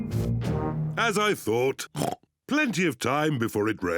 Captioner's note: oinks